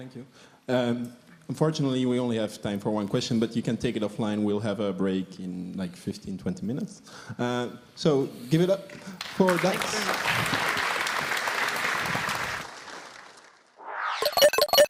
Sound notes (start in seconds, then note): 9.1 applause